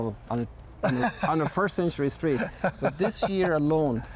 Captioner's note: laughs